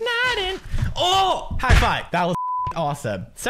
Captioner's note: beep